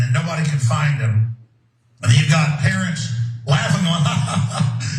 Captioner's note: laugh